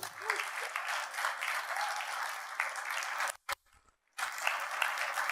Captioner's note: audience applauds